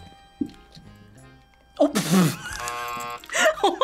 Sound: buzzer

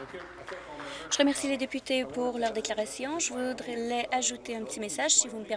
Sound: some applause

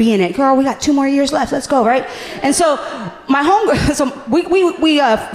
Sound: none

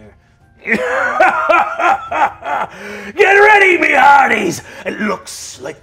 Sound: laughs boisterously

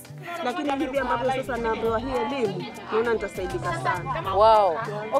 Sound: talks in Giriama

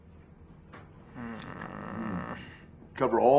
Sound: slight growl

